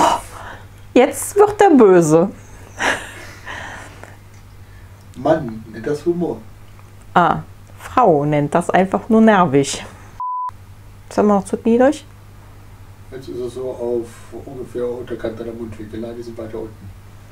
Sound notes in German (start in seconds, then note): 2.3 lacht; 5.1 Aus dem Off; 12.0 Aus dem Off